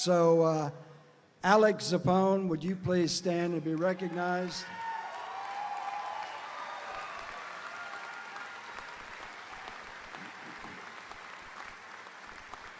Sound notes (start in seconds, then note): 3.8 audience applauding; 3.8 audience cheering